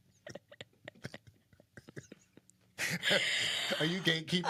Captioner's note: both laughing